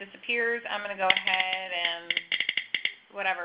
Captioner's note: clicking noises